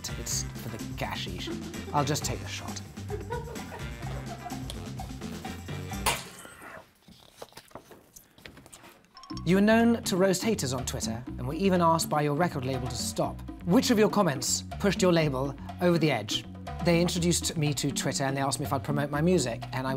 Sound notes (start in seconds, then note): 3.1 laughing; 3.1 upbeat music; 6.1 loud clashing; 6.1 upbeat music ends; 9.1 ringing